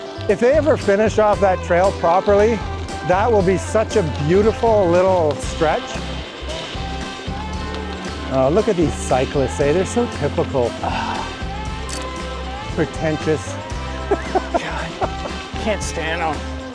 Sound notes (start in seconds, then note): 10.9 scoffs; 13.8 laughs